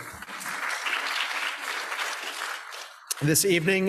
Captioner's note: people applauding